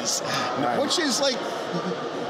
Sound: laughs

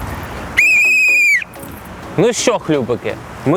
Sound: whistle sound

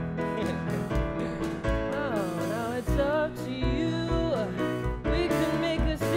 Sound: laugh

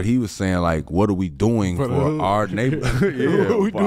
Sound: laughs

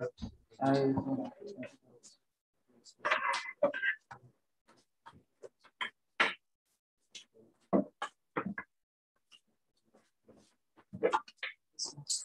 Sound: indistinct conversation

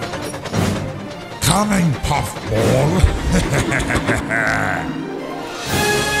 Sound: evil laugh

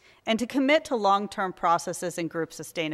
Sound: none

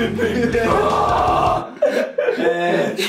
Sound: lachen

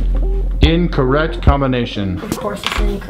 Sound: male Voice

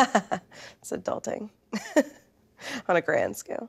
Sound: chuckles

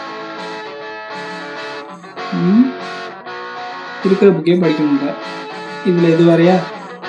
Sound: murmuring

